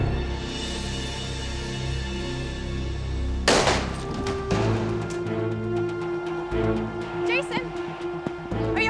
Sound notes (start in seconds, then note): 3.4 gun shot; 6.8 yelling